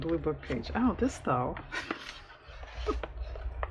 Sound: laughs

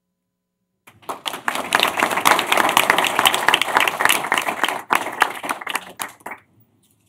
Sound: applause

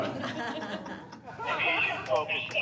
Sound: on phone

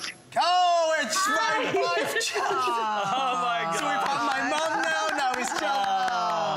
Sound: applause

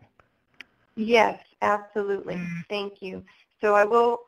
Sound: voiceover

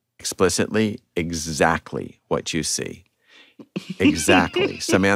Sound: laughter

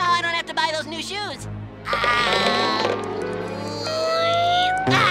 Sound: groaning

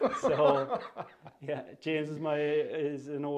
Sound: laughter

